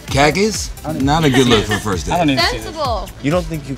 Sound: laugh

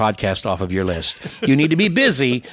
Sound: laughs

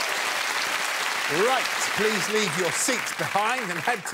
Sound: audience applause

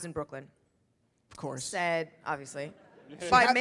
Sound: audience laughs

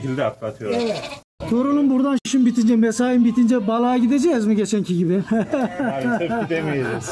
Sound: laughing sounds

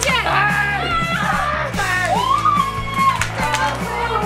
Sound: screams

